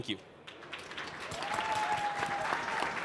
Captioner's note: applause